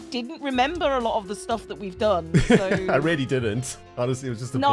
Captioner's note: chuckles